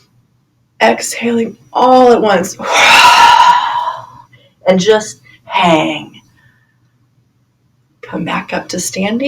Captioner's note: exhale